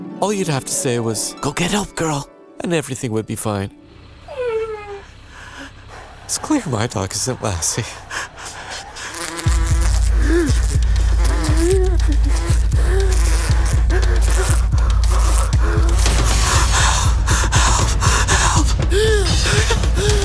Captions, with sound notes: All you'd have to say was, "Go get help, girl," and everything would be fine. (whining) It's clear my dog isn't Lassie. (fly buzzing) (gasping) Help, help, help! (gasping)